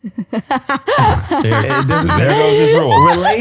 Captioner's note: laughs